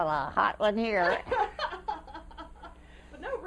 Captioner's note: laughter